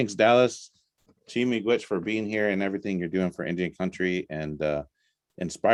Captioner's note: native language spoken